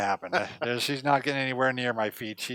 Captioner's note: laughs